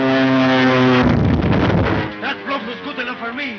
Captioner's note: bomb exploding